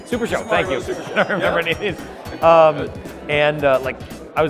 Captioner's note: laughs